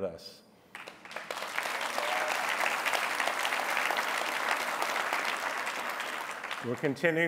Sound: applause

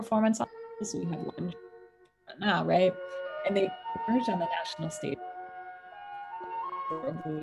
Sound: audio distortion; soft music

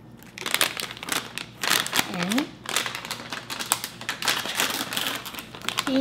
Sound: plastic crinkling

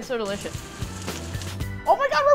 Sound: sizzling

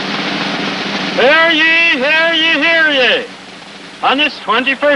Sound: rattling continues

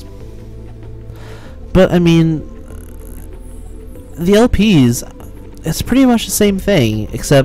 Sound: sigh

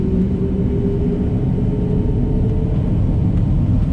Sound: engine roaring

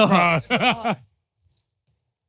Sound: silence hushes

